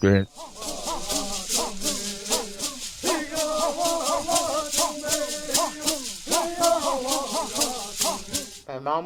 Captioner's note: bird Songs